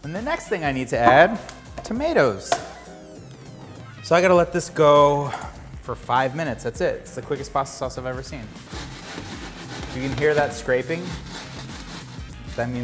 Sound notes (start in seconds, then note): 8.2 shuffling pan